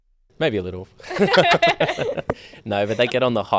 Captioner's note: all laugh